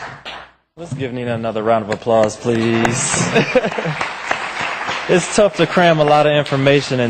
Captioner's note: applause